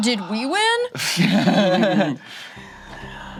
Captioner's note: laugh